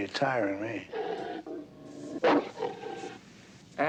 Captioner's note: growling